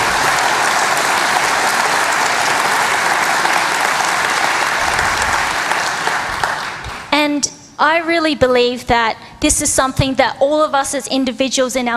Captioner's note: applause